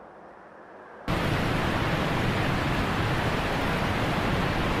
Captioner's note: water rushing